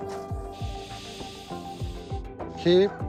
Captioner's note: paint spraying